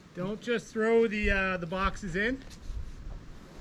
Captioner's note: wind blowing